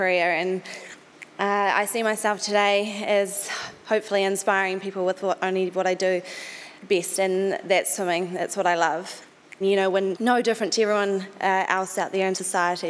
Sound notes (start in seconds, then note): none